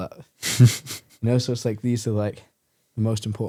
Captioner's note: laughs